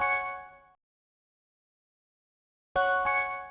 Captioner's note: silence